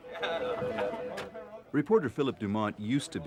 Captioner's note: phones ringing